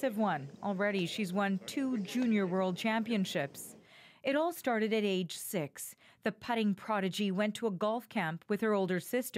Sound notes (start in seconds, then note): 0.7 giggling